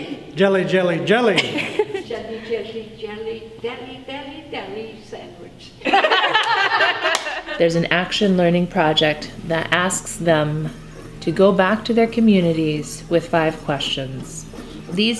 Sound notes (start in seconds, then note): 5.8 laughter